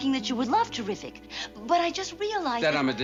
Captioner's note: none